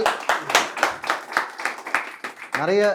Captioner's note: audience claps